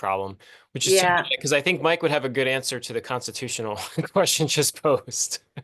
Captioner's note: laugh